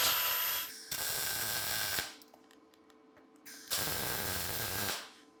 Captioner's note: sparks hissing